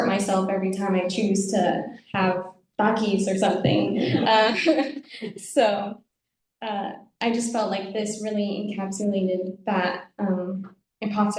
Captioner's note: audience laughs